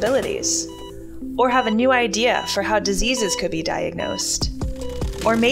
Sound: heartbeat going up and down; sewing machine

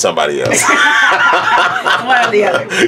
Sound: laugh

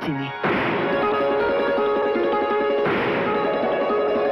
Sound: crackers Sound

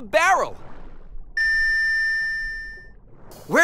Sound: beeping

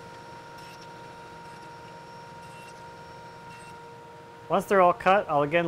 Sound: saw buzzing

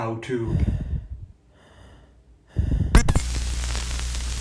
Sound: faint breathing; Static

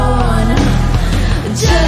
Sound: breath

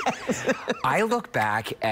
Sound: laughter

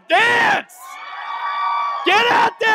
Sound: audience clapping and cheering

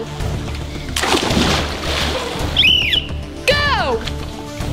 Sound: splash

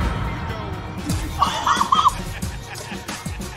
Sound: in-video chuckles

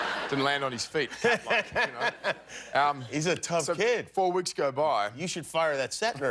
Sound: laughter

